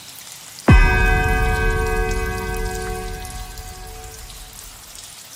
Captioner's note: third bell